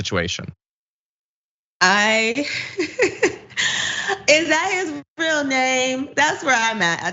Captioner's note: laugh